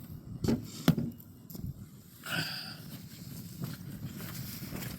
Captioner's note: sighs